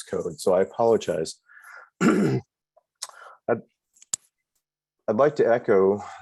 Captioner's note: ahem